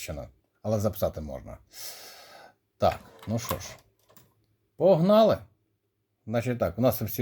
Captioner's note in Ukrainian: сопіння